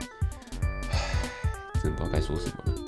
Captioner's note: sigh